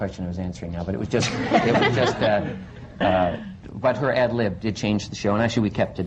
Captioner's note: laughter